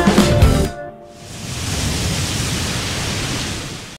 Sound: waves crashing

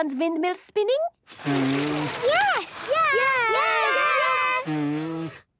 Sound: blowing, fluttering; blows

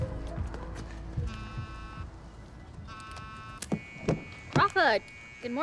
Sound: cell phone buzzing

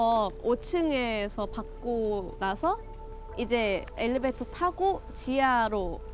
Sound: speaks in foreign language

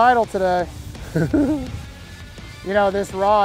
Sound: laughs

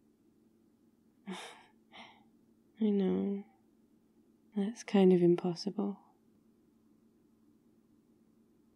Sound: laughs

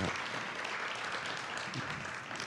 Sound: audience applauds

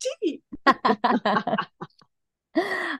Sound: everyone laughs

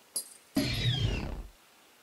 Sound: raptor snarls

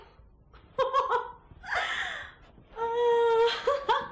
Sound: laughs

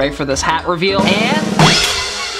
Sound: crashing

